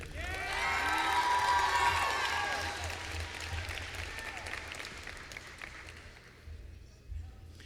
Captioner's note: applause